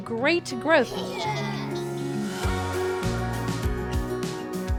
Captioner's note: students laugh